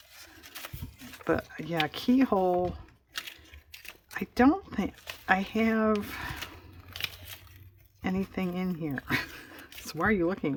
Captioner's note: laughs